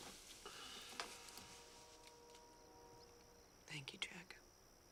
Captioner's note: Jack sighs